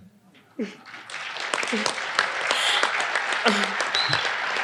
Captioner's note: audience applauding